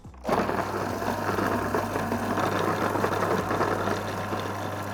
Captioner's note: blender rumbling